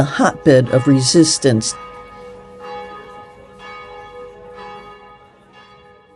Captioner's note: church bells